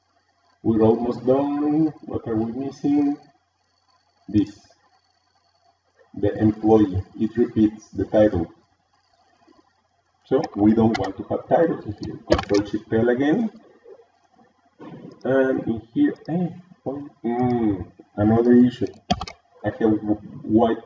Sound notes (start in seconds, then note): 15.2 surprised